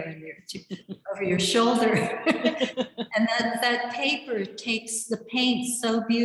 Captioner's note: laughs